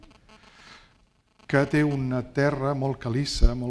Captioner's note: speaking spanish